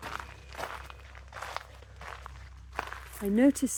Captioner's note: footsteps on gravel